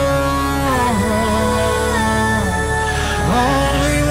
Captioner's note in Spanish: aahhh